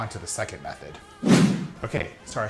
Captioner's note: whooshing